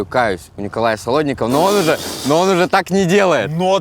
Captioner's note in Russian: Дудь прыскает